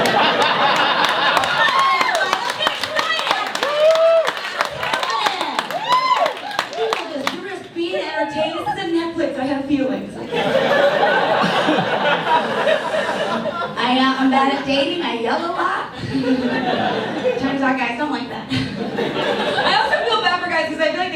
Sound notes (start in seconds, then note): 0.0 audience laughs; 4.4 audience cheers; 10.2 audience laughs